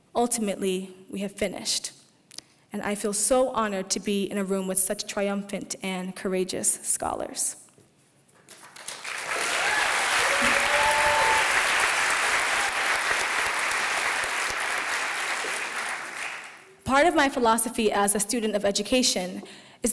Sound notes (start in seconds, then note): 8.5 applause